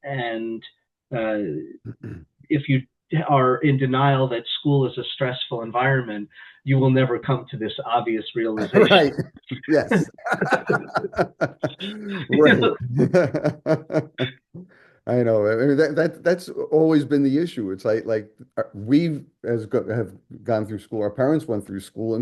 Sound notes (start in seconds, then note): 8.5 laughs; 12.5 laughter